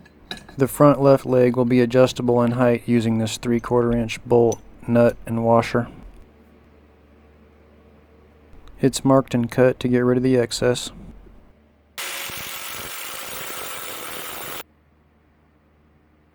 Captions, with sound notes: The front left leg will be adjustable in height using this three-quarter inch bolt, nut, and washer. It's marked and cut to get rid of the excess. [Grinding sound]